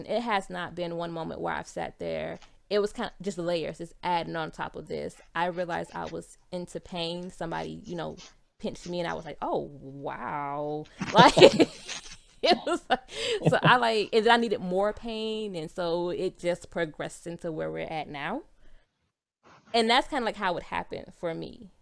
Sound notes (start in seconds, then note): 12.4 laughing